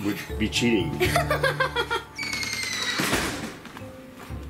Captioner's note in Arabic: يضحك